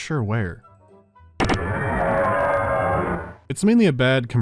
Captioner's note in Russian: чудовищный рёв